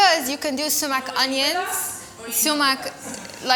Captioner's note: group chattering